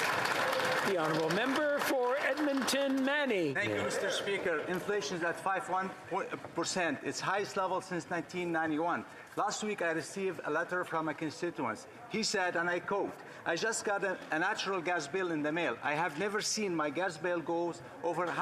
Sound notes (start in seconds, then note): 3.1 some Applause